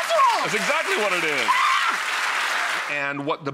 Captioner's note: screaming